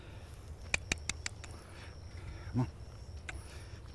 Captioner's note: clicks teeth